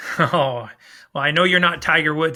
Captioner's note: laughs